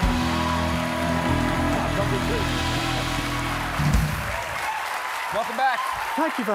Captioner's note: applause